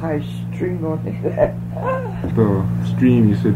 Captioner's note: laughter